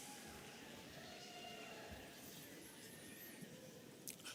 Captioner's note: audience cheering